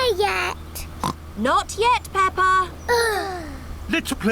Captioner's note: oinks; both sigh